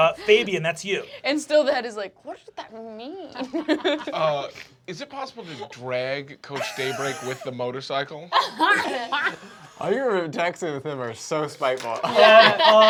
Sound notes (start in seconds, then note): 2.9 laughs; 8.3 laughter